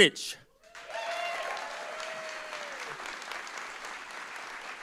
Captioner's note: audience applauding